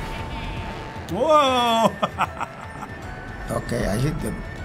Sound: chuckling

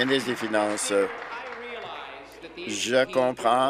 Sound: applause

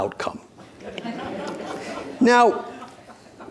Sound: audience laughing

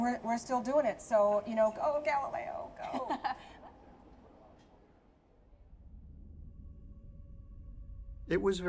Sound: laughs

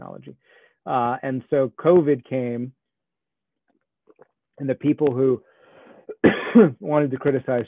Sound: coughs

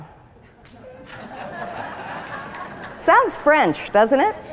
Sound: laughter

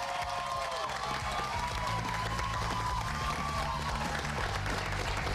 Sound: cheers and applause

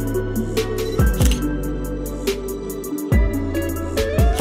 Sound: camera shutter clicks

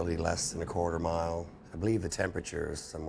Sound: voiceover

